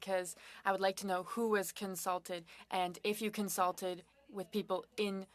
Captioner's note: speaking French